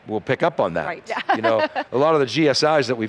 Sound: laughs

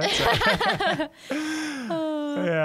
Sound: laugh

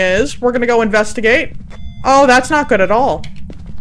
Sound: over Radio; EMF reader beeps

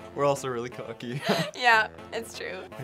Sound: laughs

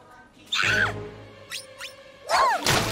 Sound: shrieking

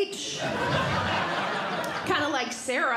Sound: audience Laughing

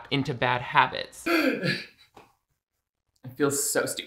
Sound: sobs

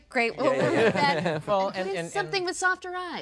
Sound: laughing

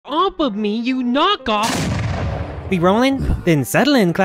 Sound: explosion

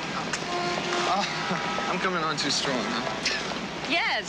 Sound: both laugh

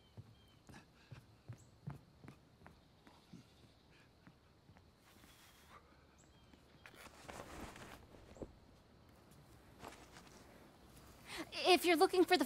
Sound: steps

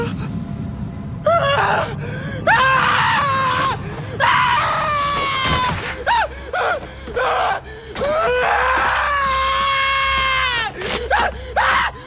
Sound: screaming

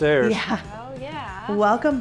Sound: laughs

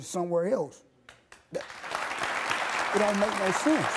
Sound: audience applauding

